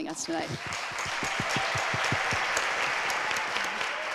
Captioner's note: audience applauds